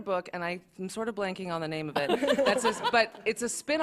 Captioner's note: laughter